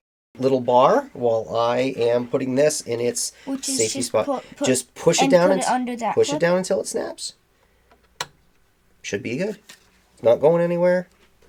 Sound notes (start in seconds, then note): 8.1 click